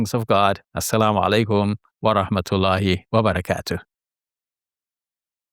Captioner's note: speaking in Arabic